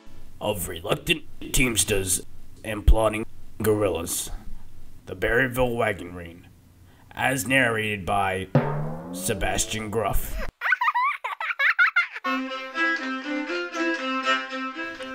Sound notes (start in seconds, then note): 10.2 sound of a child giggling; 12.2 fiddle music